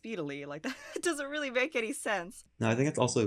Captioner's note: chuckles